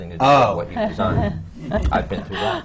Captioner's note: laughs